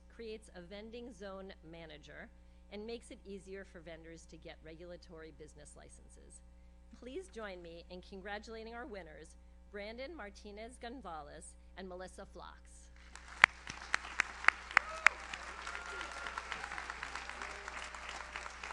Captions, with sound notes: creates a vending zone manager, and makes it easier for vendors to get regulatory business licenses. Please join me in congratulating our winners, Brandon Martinez Gonzalez, and Melissa Flocks. (audience applauds) (audience cheers)